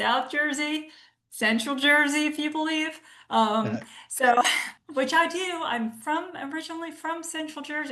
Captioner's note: laughs